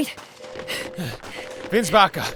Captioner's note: panting